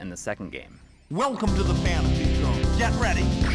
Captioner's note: Space Harrier Game Audio